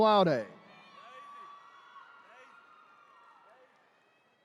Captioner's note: attendees cheering